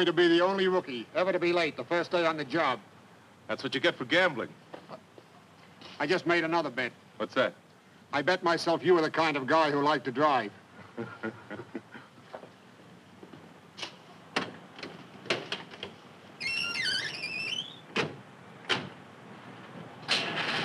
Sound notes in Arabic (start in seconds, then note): 10.8 يضحك; 16.4 صرير أبواب السيارة; 20.0 تشغيل المحرك